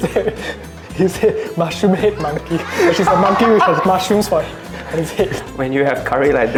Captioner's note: laughs